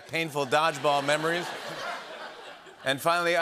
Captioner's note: laughter